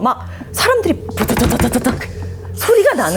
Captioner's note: rustle-rustle-rustle